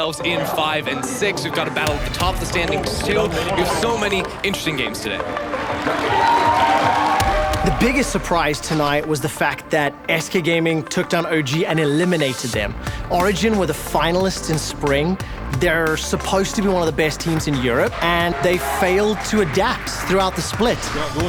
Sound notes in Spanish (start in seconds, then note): 6.1 Aplausos y vítores